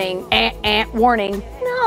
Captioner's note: imitates alarm buzzing